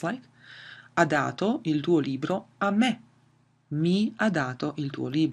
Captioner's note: speaks in foreign language